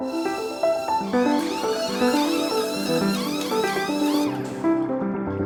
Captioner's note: tools whirring